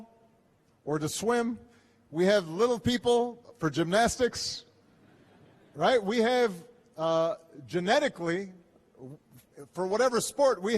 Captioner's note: laughter